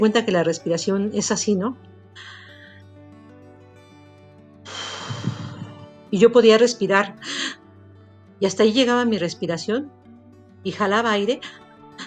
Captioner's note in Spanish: Respiraciones